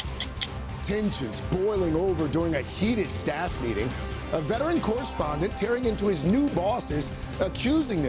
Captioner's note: clock ticking